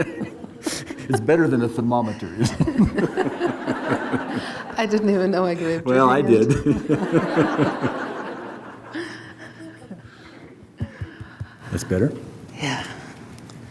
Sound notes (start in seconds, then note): 0.0 laughs; 3.8 audience laughs; 6.4 laughs; 7.9 audience laughs